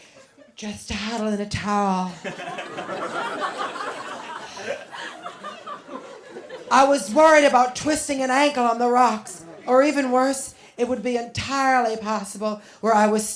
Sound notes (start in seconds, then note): 2.2 laughter